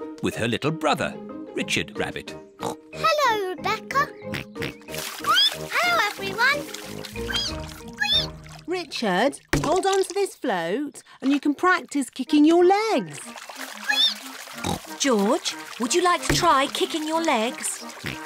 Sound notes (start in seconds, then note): 2.6 oinks; 5.1 squeaks; 7.1 richard squeaks; 14.0 squeaks; 18.0 oinks